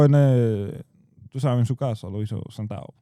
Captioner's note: speaking In Foreign Language